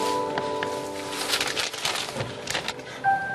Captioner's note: paper bag rustling